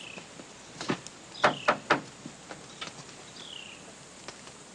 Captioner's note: knocking